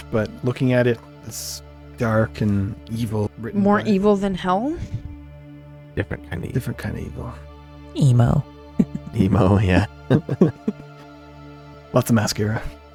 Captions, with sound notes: but looking at it, it's dark and evil. More evil than Hell? Different kind of evil. Different kind of evil. Emo. Emo, yeah. (laughs) Lots of mascara.